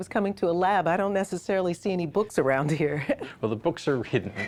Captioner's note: chuckles